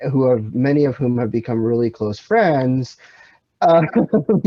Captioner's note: laughs